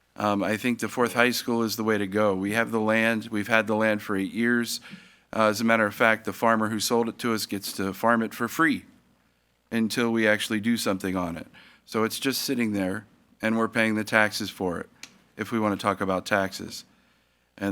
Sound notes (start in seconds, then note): none